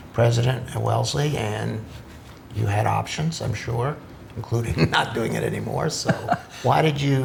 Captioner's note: laughs